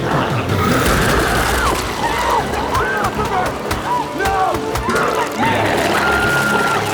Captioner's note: glowzie growls; Chalee screaming; Chalee screaming; glowzies growling